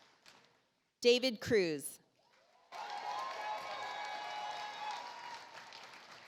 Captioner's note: audience applauds